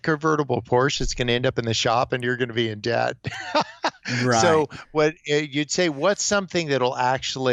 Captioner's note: laughs